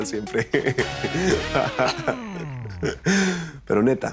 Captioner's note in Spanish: lalo ríe